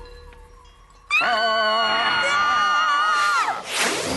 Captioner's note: all scream